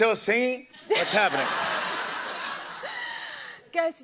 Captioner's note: laughter